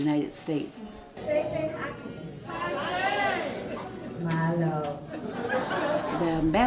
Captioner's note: speaking in foreign language; audience laughing